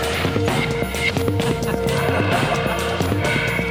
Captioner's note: laughing